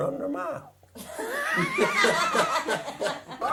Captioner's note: laughter